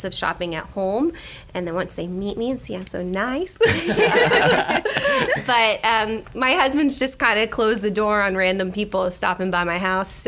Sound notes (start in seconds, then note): 3.6 laughter